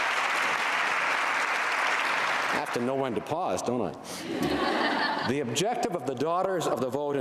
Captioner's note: applause